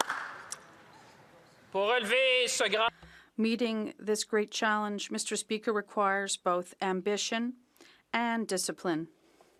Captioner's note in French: applaudissements